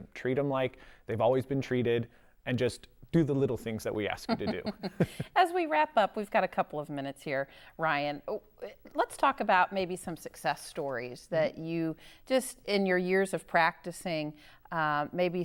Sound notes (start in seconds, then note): 4.2 chuckling